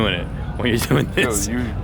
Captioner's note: laughing